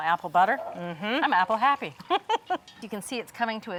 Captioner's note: laughing